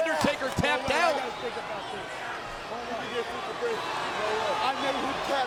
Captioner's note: crowd chattering